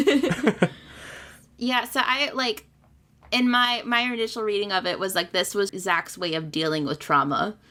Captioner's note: laugh